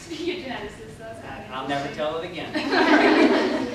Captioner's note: laughter